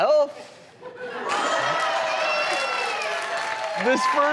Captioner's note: audience laughs and applauds